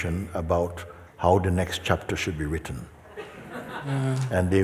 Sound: laughter

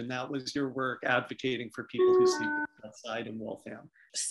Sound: doorbell

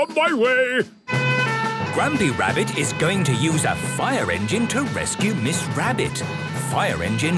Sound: sirens

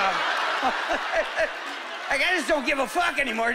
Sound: laughing

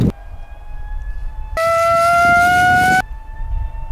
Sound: distorted music; siren

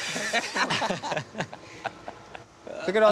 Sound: laughing

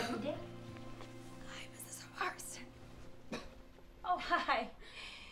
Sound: hoarse voice

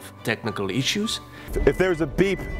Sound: beeping

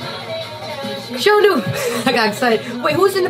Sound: laughs

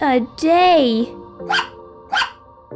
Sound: bark! Bark!

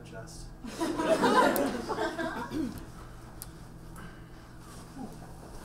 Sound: audience laughs

